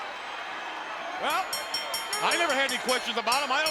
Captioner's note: bell ringing